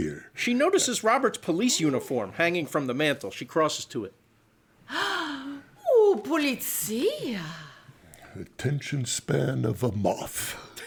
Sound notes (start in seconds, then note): 4.9 gasps